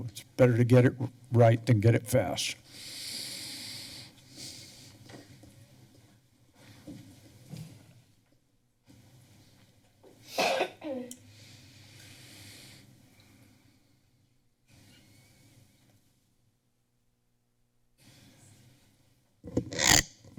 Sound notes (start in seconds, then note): 2.6 silence